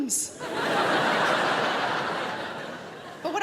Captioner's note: crowd laughs